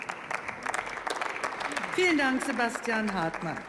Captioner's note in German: Beifall